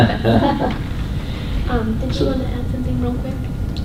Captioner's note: laughter